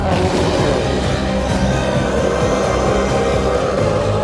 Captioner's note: intense music continues; chef roars